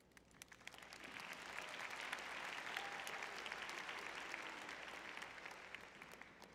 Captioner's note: applause